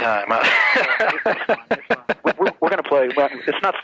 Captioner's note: laughs